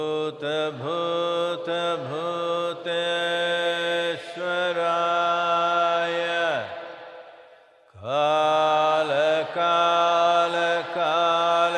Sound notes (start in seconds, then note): none